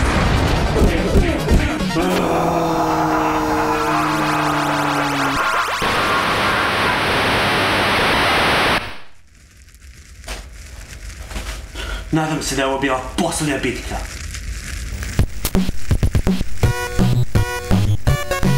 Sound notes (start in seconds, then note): 1.9 screaming in agony; 5.5 static